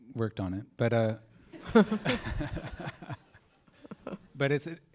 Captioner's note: laughter